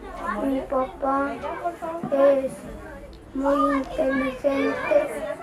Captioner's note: boy speaks in Spanish